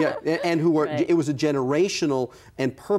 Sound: laughs

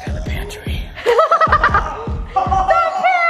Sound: laughing

